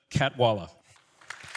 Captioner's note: applause